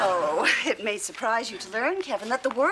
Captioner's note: scoffs